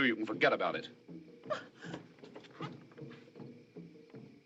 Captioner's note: exclaims